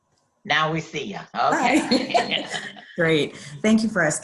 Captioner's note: laughs